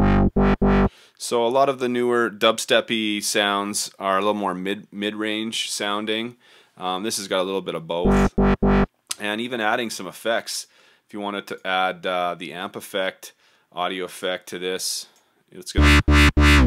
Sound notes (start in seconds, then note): 8.1 midrange wobbles